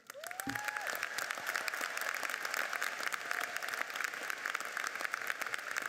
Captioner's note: audience cheers and applauds